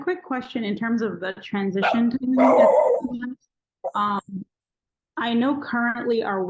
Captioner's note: dog barking